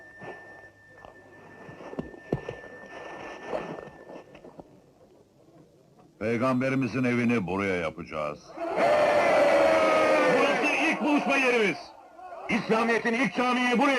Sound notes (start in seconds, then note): 4.9 crowd murmuring; 8.6 crowd cheering